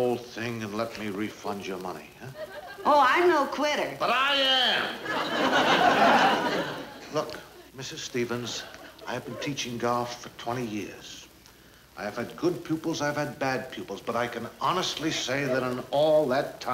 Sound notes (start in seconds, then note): 4.8 audience laughing